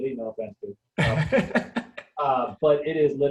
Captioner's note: laughing